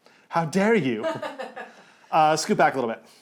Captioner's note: laughs